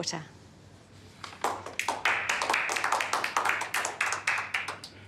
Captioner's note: applause